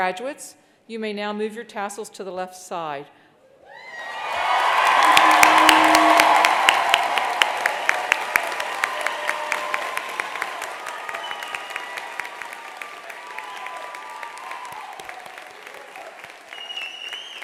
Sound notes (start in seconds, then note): 3.6 attendees applauding; 3.6 attendees cheering; 12.4 attendee whistling